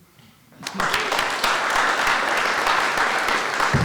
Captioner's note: applause